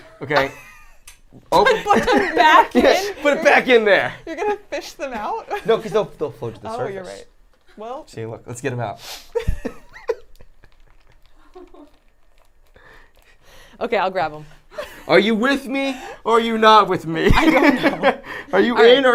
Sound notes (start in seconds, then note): 9.3 laughs; 17.3 laughs